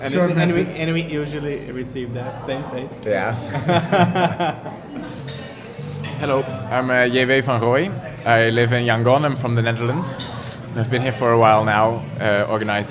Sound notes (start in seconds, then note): 3.3 laughter